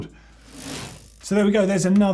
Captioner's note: bike wheel spinning